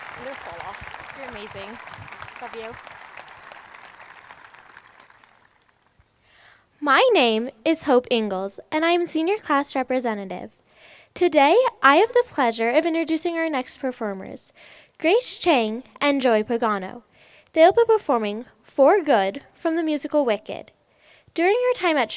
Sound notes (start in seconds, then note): 0.0 applause